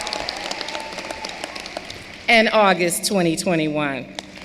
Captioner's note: cheering and applause